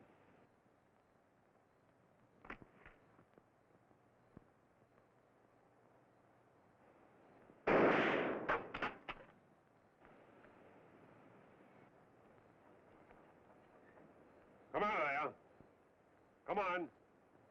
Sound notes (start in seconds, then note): 7.6 gunshot bangs